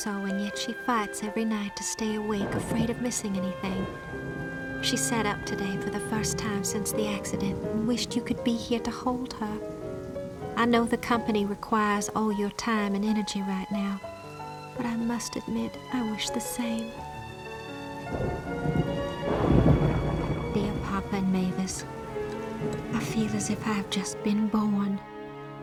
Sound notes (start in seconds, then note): 3.9 thunder rumbling; 17.0 lightning cracking; 17.8 thunder rumbling